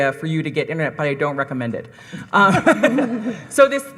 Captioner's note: panel laughing